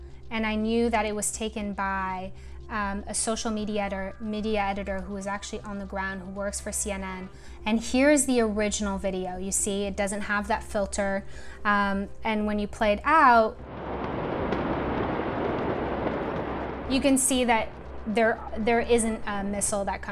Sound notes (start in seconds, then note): 13.5 explosion rumbling